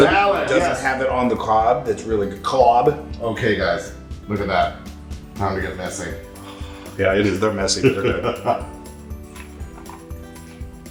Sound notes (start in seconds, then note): 7.8 laugh